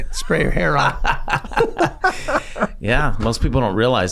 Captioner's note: gang laughing